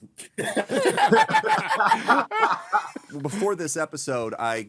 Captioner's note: laughing